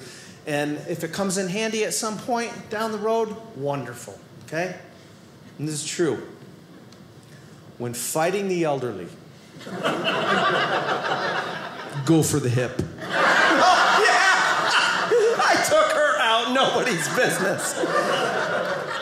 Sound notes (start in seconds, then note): 13.0 audience laughing